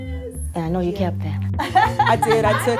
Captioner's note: laughter